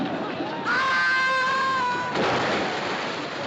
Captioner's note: Gritos